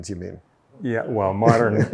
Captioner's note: laughs